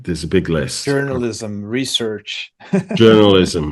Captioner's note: laughs